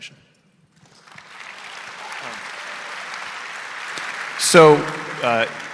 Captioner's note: audience applauding